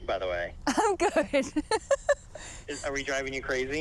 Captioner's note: laughs